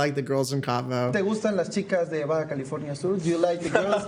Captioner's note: Spanish